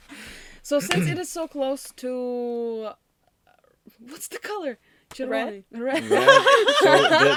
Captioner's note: asks in Ukrainian